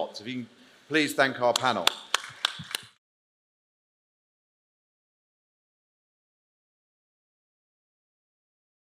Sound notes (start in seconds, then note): 1.5 applause